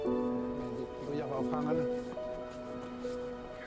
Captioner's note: speaking Inuit